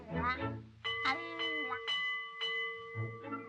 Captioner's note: bell rings